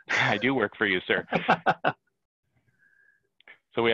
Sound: laughter

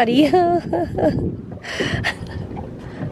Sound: chuckles

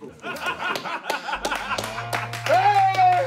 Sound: laughter

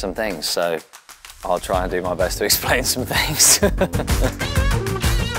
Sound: laughs; upbeat music

